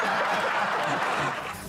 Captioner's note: applause